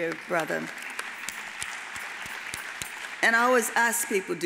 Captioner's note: audience applauds